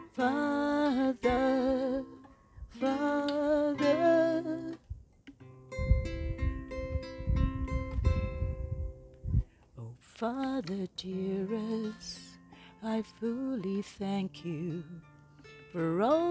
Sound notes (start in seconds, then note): 6.1 plucking sounds